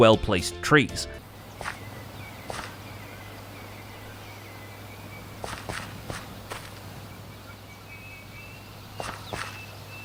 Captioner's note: white noise and birds chirping